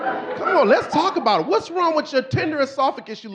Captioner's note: audience laughing